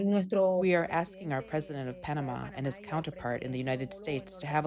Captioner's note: through translator